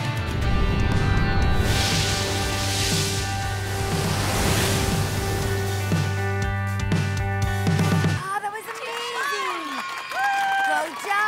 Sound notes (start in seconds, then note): 2.8 waves crashing